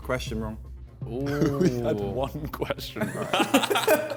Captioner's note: men laughing; laughs